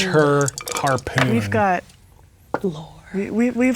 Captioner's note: dice rolling